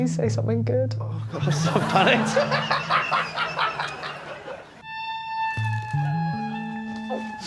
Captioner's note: laughs